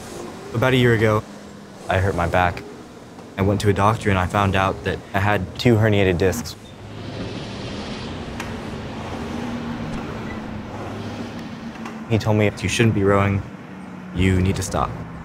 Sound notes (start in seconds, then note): 6.4 oars rowing